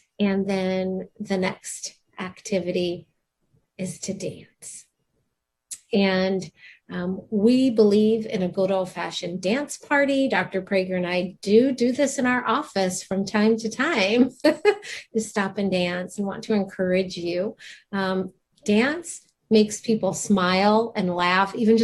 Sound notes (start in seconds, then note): 14.0 laughs